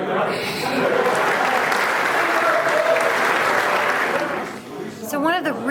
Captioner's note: crowd laughing; crowd applauding